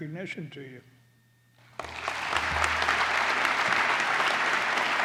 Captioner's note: applause